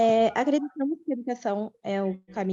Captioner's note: non-english